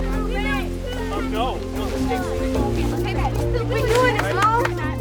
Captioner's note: students chattering; clapping